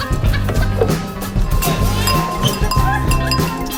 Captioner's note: laughing; glasses clinking